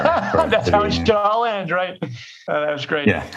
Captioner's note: laughs